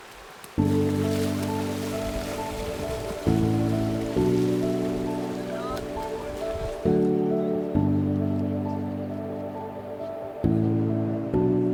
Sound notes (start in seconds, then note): 0.0 splashing; 0.8 serene music